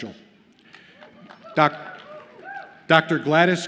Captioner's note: audience cheers